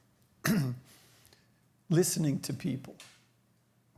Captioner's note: clears throat